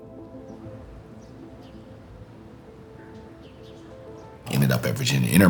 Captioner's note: birds chirping